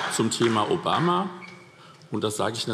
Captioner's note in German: Beifall DIE LINKE